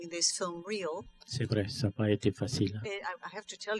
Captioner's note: speaking french